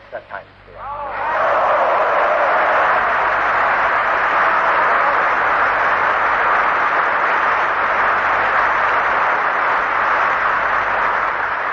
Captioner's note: applause